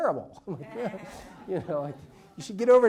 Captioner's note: laughs